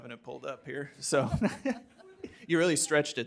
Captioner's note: laughs